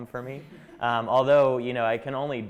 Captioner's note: chuckling